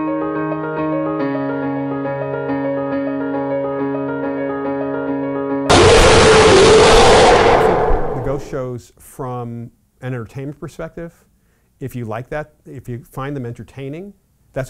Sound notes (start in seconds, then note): 5.7 electric screaming